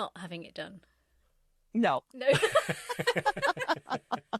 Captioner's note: laughs